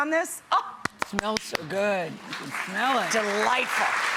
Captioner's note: audience applauds